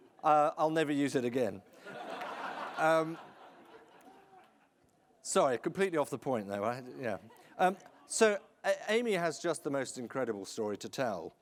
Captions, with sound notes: I'll never use it again. (audience laughing) Sorry, completely off the point there, right? So, Aimee has just the most incredible story to tell.